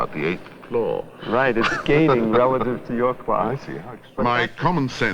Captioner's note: laughs